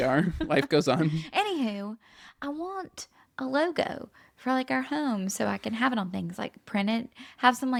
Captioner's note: laughs